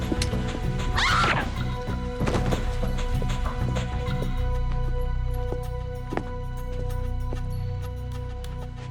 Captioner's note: screams